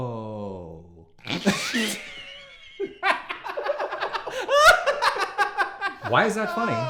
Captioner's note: laughing